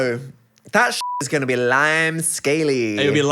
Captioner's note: beep